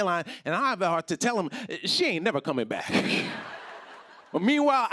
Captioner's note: laughter